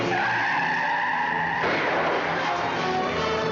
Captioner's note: gunshot